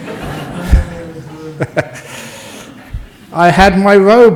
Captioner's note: laughter